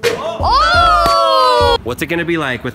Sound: yells

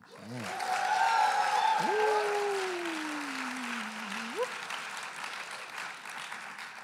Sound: enthusiastic cheering and applause

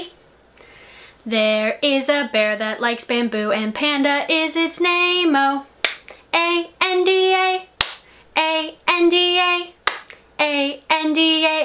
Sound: clap

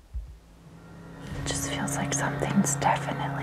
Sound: whispering

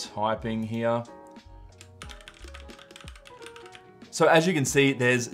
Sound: keyboard clicking

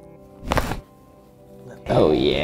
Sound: bones cracking

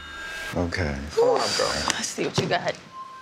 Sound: sighs

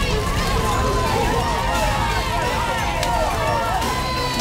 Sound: crowd cheering

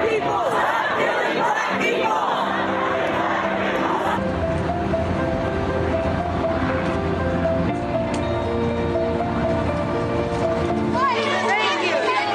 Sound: crowd chanting

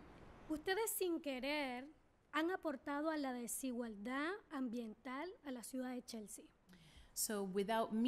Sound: speaking spanish

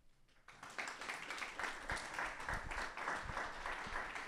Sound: audience applause

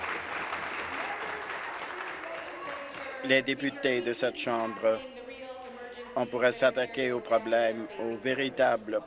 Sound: applause

